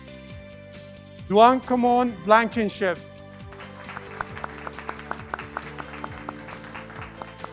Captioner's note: graduates clapping